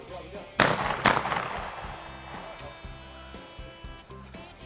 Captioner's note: booming